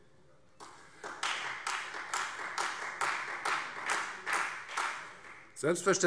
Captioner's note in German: Beifall